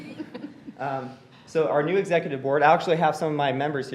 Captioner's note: laughter